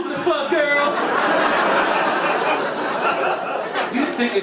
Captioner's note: audience laughing